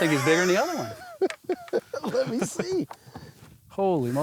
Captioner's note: laughing